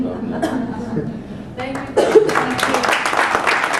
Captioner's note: applause